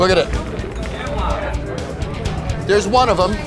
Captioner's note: chatter